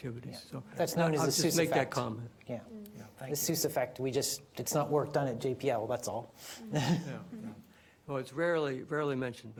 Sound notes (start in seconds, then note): 6.6 laughs